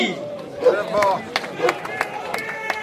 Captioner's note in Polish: oklaski